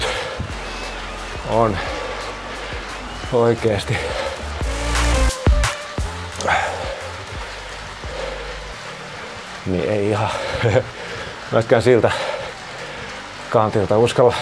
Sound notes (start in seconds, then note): 6.0 sighs